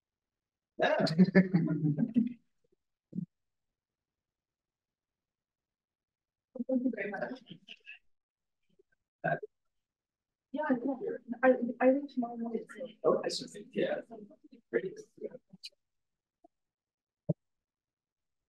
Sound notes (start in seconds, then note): 7.0 audio distorting